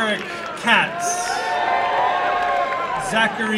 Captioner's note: applause and cheering